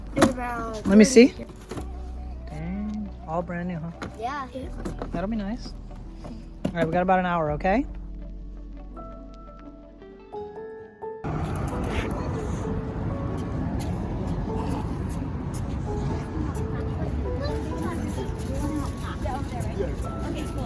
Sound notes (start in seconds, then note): 8.3 calm music; 11.3 cars driving